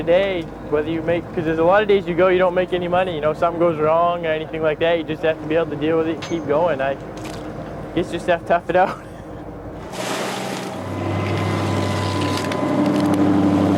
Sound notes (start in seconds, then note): 9.8 water splashing; 11.2 motor whirring